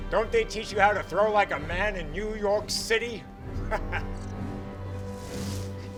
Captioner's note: laughs